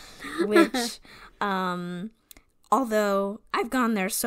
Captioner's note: laughs